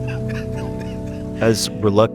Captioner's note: quiet laughter